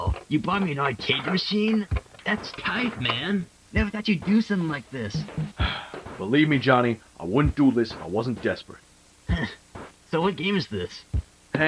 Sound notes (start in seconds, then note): 5.6 sigh